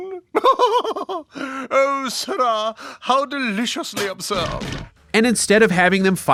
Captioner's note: laughs